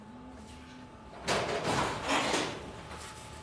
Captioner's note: clacking